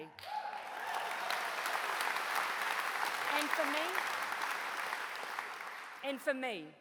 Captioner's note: applause